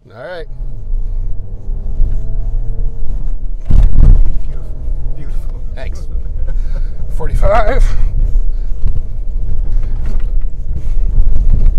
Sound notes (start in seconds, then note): 1.0 engine rumbling; 3.6 truck thumping; 6.0 videographer laughs; 8.3 engine rumbling